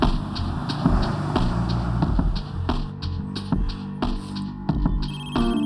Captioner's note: phone rings out